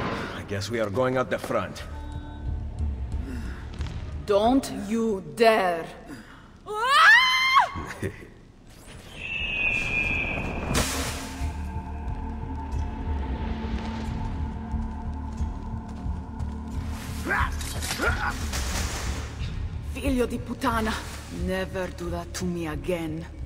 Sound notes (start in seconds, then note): 7.8 Ezio laughs; 9.0 eagle screech; 17.0 hidden blade stabbing sound